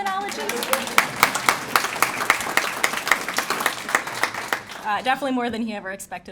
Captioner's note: applause